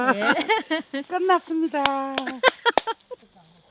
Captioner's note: laughs